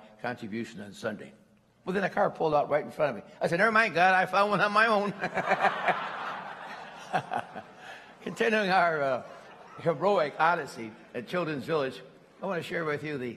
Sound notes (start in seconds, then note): 5.0 laughter